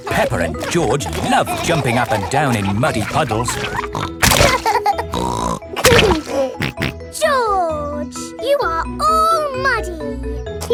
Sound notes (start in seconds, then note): 4.4 laughs and snorts